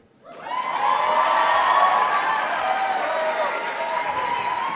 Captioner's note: applause